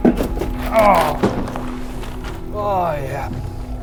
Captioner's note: Jack grunts